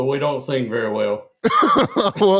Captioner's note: laughter